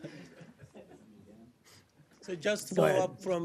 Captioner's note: laughter